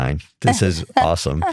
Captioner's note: laughing